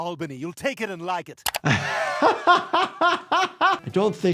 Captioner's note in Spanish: el doctor se ríe